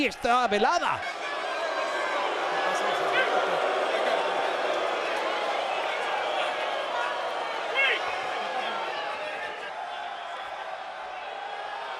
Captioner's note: applause